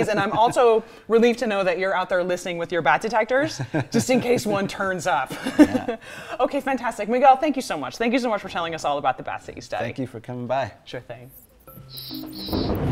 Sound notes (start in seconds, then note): 5.9 laughs